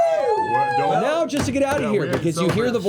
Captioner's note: cheering